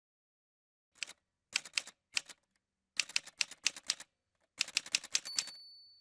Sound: typewriter sounds

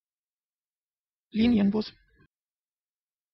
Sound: fast Pronunciation

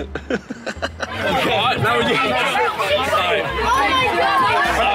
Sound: chuckles; students shouting

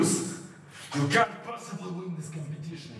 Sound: breathing

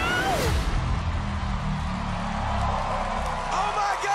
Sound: crowd gasps

